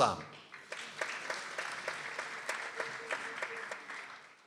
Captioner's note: people applauding